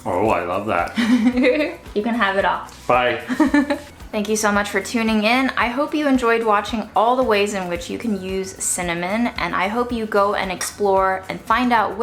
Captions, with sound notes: - Oh I love that. (laughs) - You can have it all. - Bye. (giggles) - Thank you so much for tuning in. I hope you enjoyed watching all the ways in which you can use cinnamon. And I hope you go and explore and find out